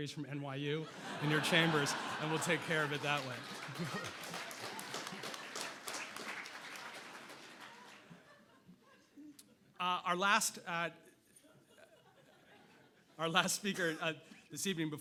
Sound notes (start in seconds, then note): 4.3 audience laughing and applauding